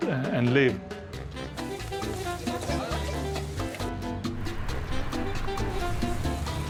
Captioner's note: upbeat music; people chattering